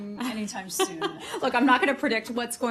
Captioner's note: laughter